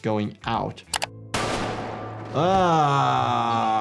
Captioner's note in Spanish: disparos de arma